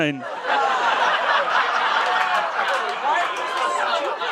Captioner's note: crowd laughing